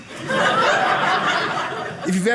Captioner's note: audience laughing